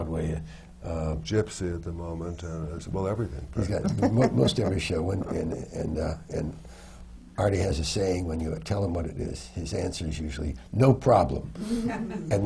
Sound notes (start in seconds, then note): 3.6 laughs